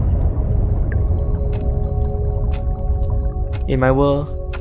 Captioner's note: clock ticking